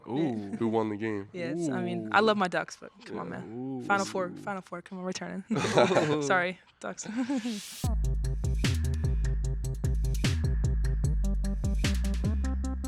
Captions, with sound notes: - Ooh. - Who won the game. - Ooh. - Yes, I mean, I love my ducks, but come on, man. Final Four, Final Four. Come on, return. (men laughing) Sorry, Ducks. (upbeat hip hop music)